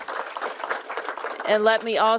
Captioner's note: applause